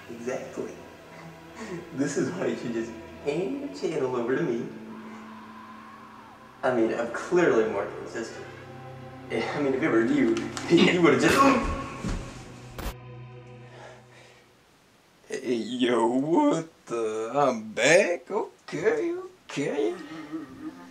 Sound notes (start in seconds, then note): 12.0 gun shot sound; 12.7 glitch sound; 12.8 creepy music fades out; 16.4 voice crack; 19.9 sad music cuts in